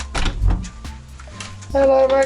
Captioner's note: door clanging